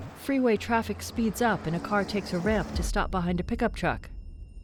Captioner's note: traffic noise crescendos